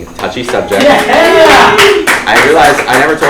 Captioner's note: applauding